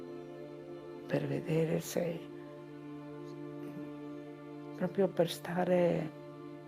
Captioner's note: continues speaking in foreign language